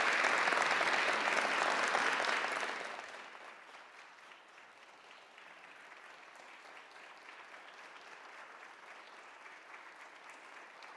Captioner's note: applause